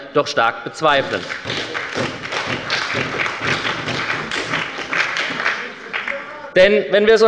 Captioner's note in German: Beifall bei der SPD sowie bei Abgeordneten der LINKEN und der FDP